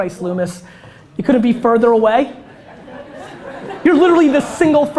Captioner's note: audience laughter